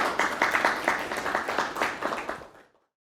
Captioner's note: audience clapping